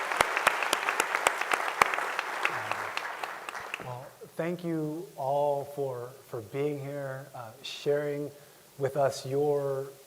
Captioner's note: applause